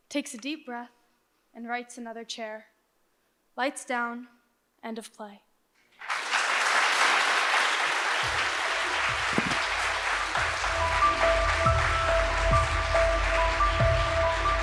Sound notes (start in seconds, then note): 6.0 audience applauds; 11.4 suspenseful music